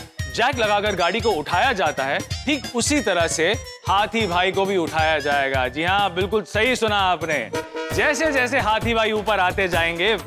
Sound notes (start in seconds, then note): none